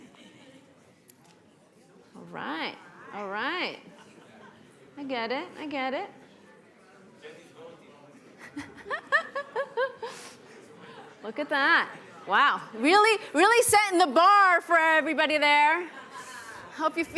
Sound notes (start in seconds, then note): 8.4 laughs